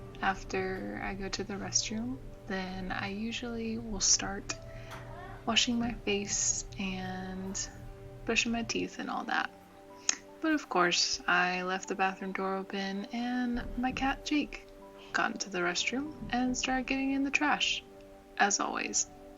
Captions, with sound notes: After I go to the restroom, then I usually will start [MEOW] Washing my face and brushing my teething and all that But of course, I left the bathroom door open and my cat Jake got into the restroom and started getting into the trash as always